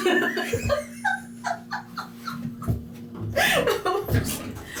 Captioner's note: laughing